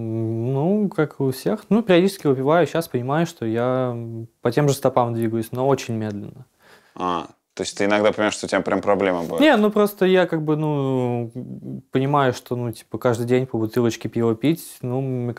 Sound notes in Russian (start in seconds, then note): none